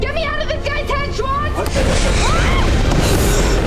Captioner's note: Piper screaming